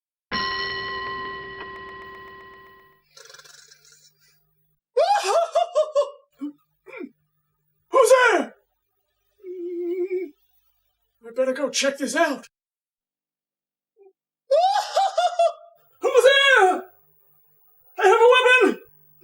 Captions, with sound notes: [Clock chimes one] [Snores] [Laughter heard offscreen] Who's there?! [Whimpers] I'd better go check this out... [More laughter] Who's there?! I have a weapon!